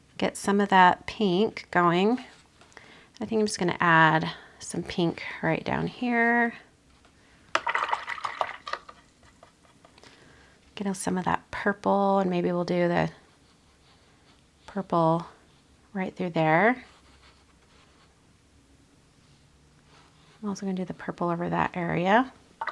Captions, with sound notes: get some of that pink going. I think I'm just gonna add some pink right down here. (water gurgles) Getting some of that purple, and maybe we'll do the purple right through there. I'm also gonna do the purple over that area.